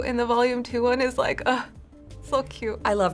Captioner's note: sighing